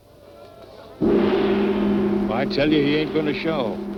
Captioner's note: gong crashes